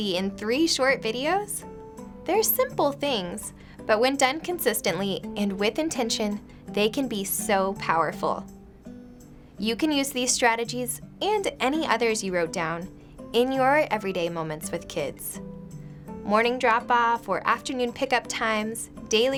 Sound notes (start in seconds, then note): none